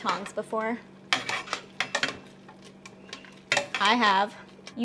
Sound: tongs clanking

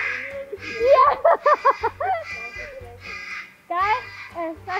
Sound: chuckled

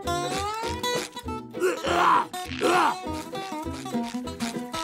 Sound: clearing throat

